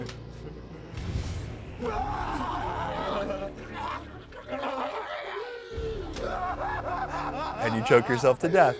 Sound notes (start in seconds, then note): 1.8 chokes; 6.1 cackles